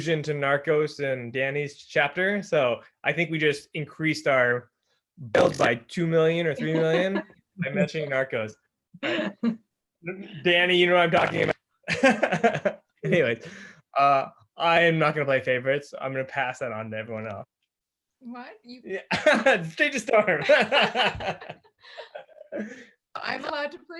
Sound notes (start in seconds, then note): 9.1 everyone laughs; 12.8 laughs; 20.2 everyone laughs